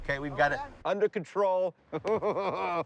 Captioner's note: crowd cheers